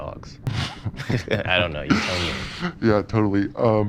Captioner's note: laughs